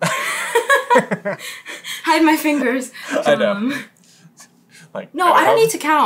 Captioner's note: laughter